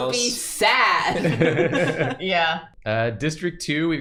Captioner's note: laughter